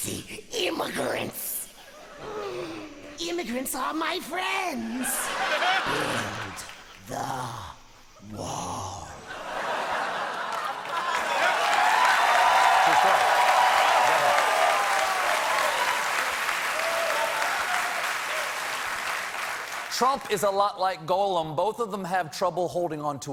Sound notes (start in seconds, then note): 7.4 cheers and applause